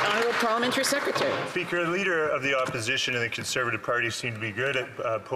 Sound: some Applause

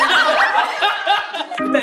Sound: laughing

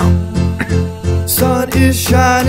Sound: cough

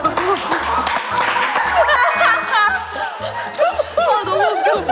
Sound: clapping

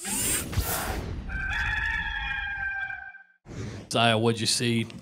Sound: rooster crowing

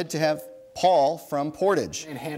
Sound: bell dings

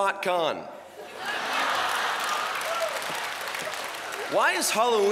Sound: laughter

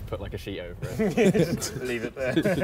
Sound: all laughing

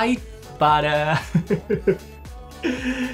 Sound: chuckles

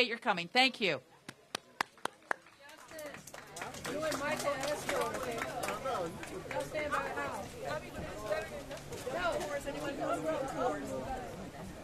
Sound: applause

